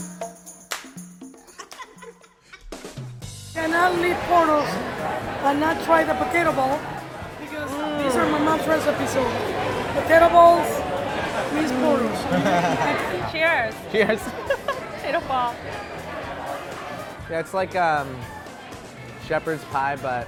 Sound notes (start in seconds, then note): 14.9 laughing